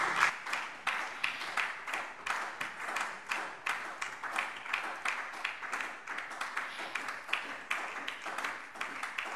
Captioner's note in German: Beifall SPD